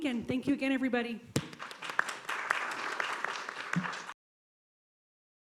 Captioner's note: applause